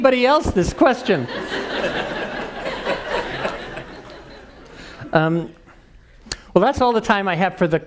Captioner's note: laugh